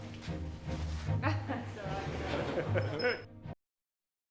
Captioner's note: crew laughing and chattering